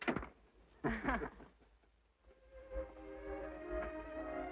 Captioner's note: Edith chuckles; gentle, romantic music